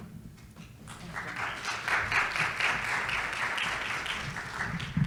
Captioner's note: audience claps